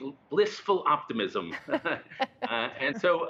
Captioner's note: laughter